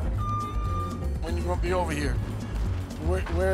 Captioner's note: equipment beeps